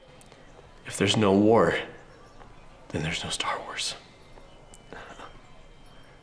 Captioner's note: chuckles